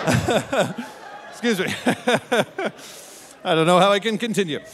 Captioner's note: audience laughing; laughing; laughing